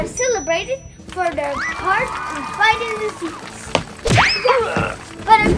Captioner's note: applauding